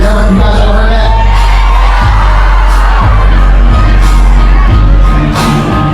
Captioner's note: upbeat Music; crowd Cheering